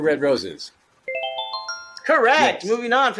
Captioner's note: twinkling sound